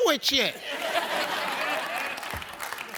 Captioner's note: audience laughs; audience claps